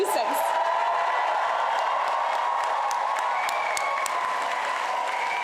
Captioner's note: cheering and applause